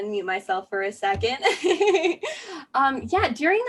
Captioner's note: laughter